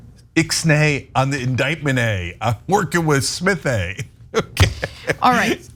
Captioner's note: laugh